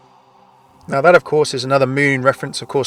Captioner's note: voiceover